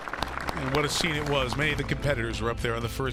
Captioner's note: applause